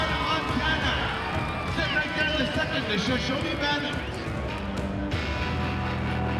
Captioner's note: announcer continues, crowd cheering